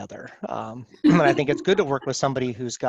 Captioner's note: laughs